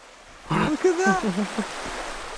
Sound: chuckling

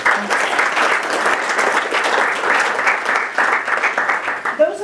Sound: applause

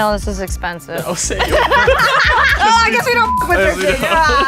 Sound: laugh

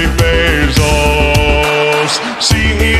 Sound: clapping

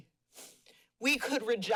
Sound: sniffles

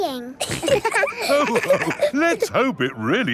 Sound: all laughing

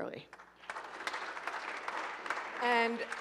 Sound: audience applauding

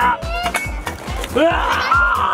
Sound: tic tac toe game clangs

